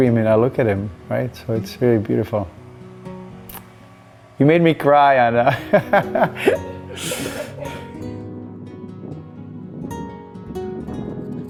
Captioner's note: laughter